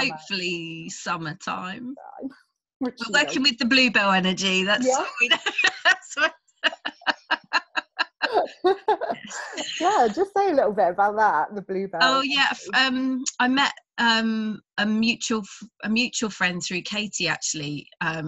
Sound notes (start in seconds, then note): 4.8 both laughing